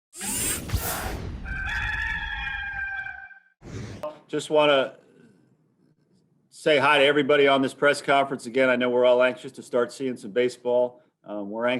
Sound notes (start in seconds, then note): 0.1 mechanical whirring; 1.4 rooster crows